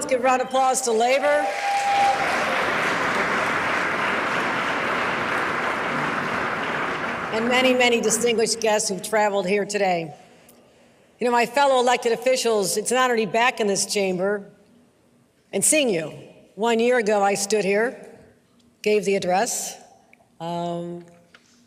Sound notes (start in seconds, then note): 0.0 applause; 5.1 applause